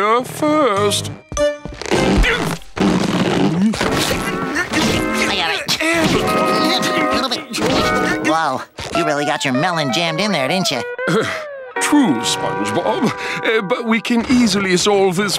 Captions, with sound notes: I shall simply exit post haste, posterior first. [grunting] Little bit too big. Whoa, you really got your melon jammed in there, didn't you? Oh, true, SpongeBob.